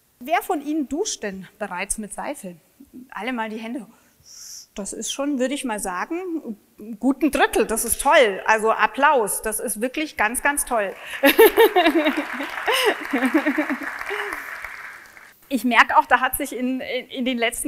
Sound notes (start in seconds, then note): 10.9 laughs; 10.9 applause